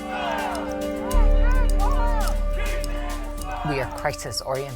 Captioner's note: protestors chanting